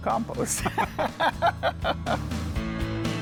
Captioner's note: both laughing; lively music